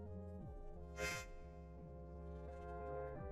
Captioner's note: inhales tearfully